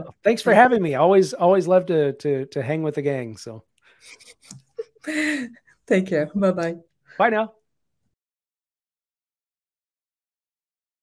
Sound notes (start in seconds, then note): 4.1 laughs